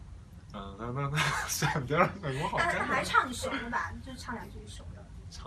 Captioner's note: laughs